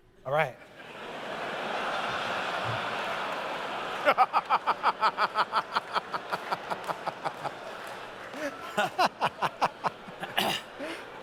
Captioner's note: laughter